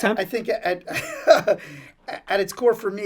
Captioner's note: chuckles